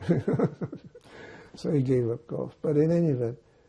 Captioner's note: laughing